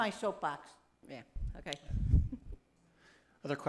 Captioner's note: laughs